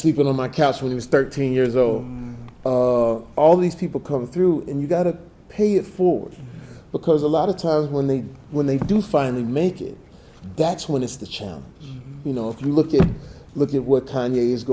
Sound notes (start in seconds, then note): none